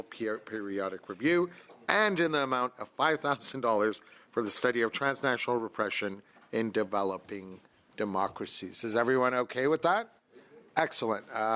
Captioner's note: speaking French